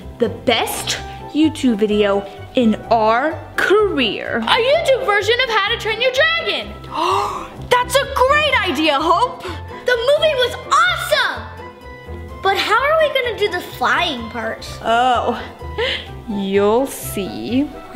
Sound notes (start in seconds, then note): 6.9 gasps loudly